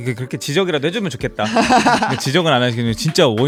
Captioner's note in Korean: 웃음